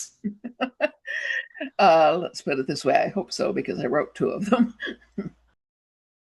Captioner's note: chuckles